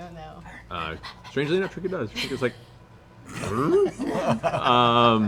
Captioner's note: confused bear noise